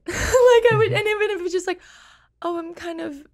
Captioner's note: laughs